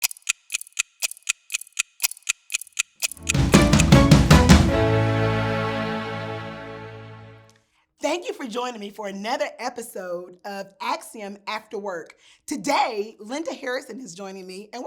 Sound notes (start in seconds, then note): 0.0 clock ticking; 3.0 upbeat music